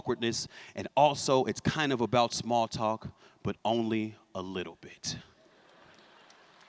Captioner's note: laughter; applause